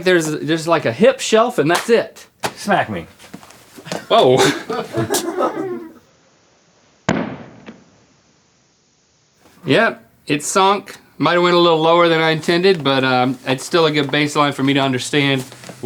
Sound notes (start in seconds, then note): 4.4 crew laughs